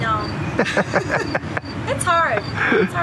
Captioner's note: both laugh